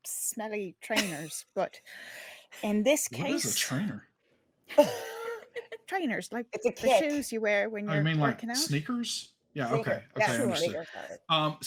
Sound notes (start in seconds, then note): 4.7 all laughing